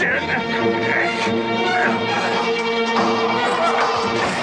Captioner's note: metal clanging